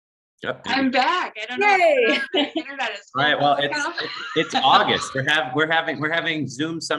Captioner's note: laughter